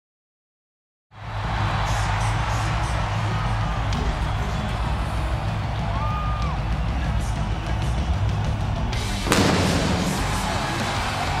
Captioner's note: applause